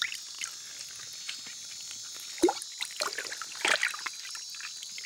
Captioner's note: water splashing